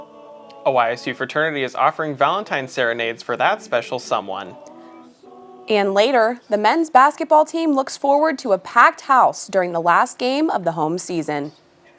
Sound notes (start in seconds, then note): 5.6 gentle Womanly Voice